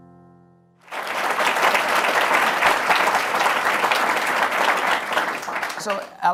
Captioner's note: applause